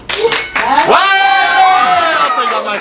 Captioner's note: ding!; cheer